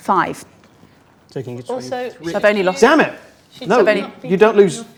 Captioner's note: overlapping chattering